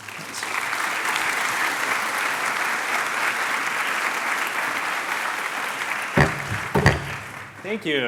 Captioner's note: applause